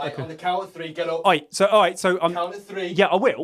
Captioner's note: stammers